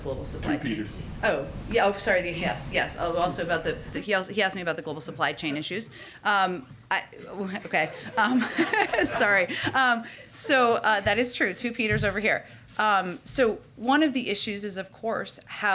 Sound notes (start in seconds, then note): 7.3 laughter